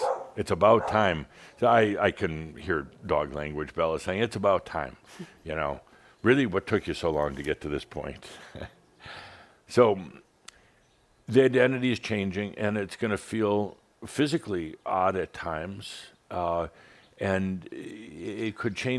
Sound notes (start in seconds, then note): 8.2 Adamus chuckles